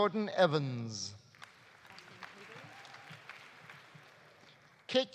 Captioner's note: audience applauding